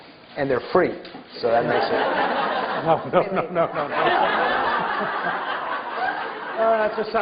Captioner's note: laughter